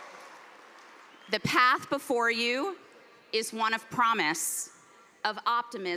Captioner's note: cheers and applause